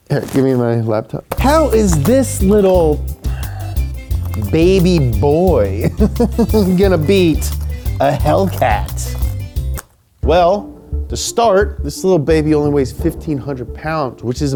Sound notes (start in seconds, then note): 5.2 laughs